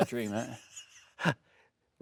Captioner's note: Stellan laughing